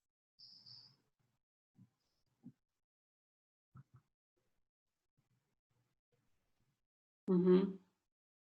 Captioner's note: silence